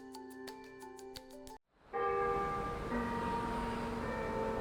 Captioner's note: bells tolling